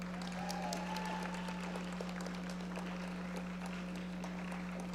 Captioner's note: audience applauding